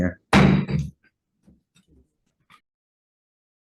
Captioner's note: gavel bangs